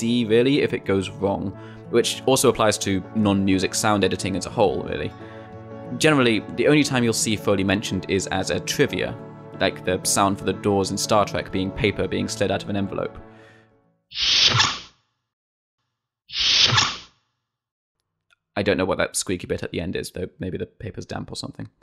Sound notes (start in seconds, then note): 18.0 The aforementioned Star Trek door noise, paper sound and all